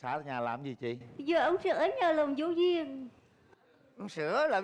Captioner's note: local accent